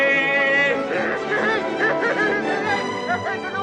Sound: laughing

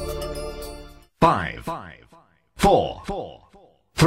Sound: echo

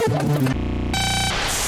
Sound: very sped-up club music; shrill buzz

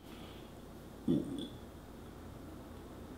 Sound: internal burp

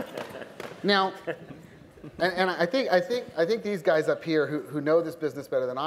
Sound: laughter

